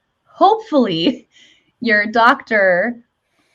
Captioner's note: chuckles